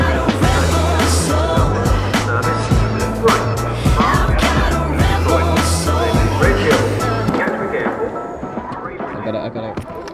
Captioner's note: train announcer